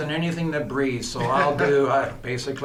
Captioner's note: chuckles